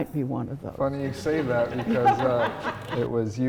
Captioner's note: audience laughing